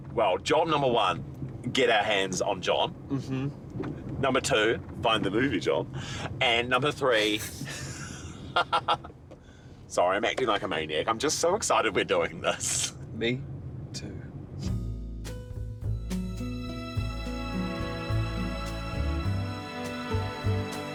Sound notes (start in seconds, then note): 8.4 both laughing